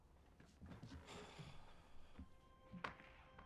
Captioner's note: sighs